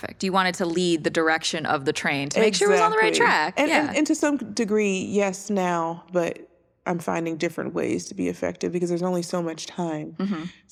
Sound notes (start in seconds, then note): none